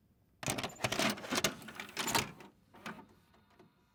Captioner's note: VHS inserting into player